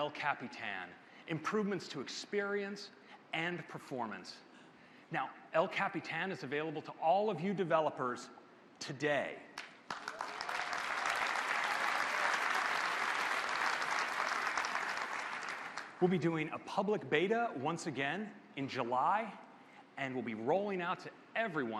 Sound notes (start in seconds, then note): 12.2 applause